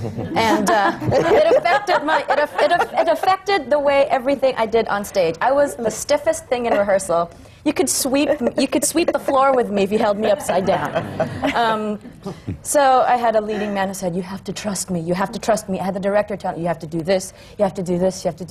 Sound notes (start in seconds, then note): 0.0 laughter; 11.9 laughter